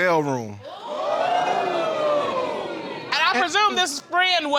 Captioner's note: audience exclaiming